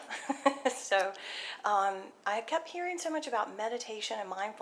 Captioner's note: laughs